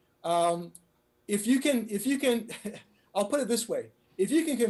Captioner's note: laughs